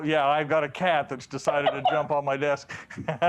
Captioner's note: laughter